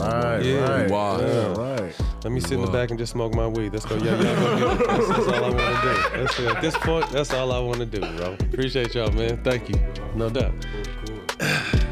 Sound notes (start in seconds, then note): 3.8 group laughing